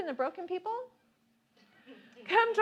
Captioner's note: laughing